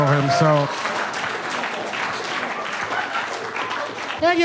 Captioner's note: audience applauds